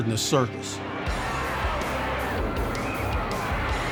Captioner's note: crowd cheering